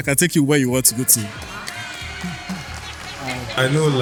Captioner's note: cheering